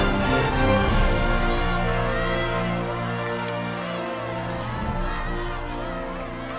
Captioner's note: crowd chattering excitedly